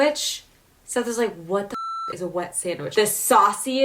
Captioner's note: beep